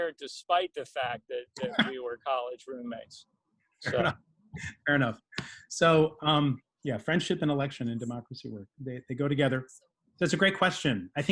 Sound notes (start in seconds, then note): 3.3 laughs